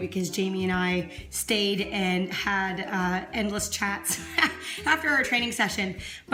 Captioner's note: laughs